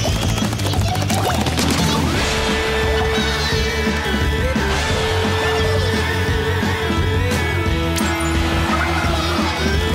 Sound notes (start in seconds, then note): 0.7 more weird Ichiya noises